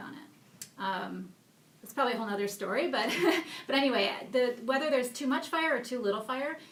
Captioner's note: laughs